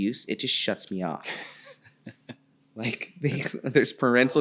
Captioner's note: laughing